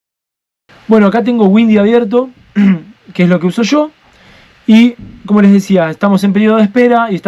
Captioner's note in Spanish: carraspeo